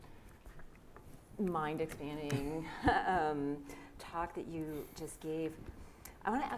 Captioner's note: laughs